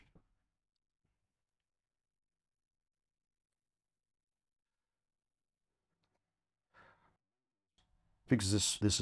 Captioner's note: silence